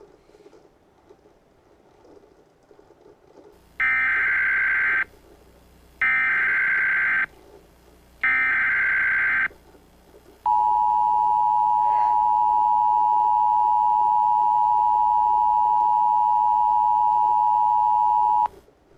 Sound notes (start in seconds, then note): 3.5 EAS tones